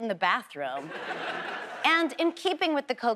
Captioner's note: audience laughs